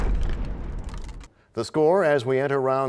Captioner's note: crashing sound